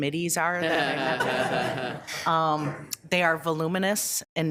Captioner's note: all laughing